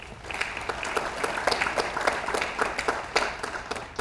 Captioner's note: audience applauds